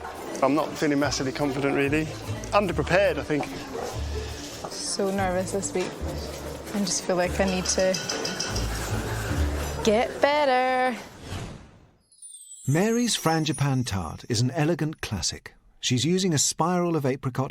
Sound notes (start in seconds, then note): none